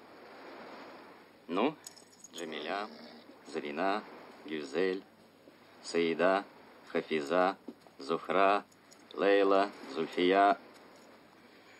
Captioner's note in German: seufzt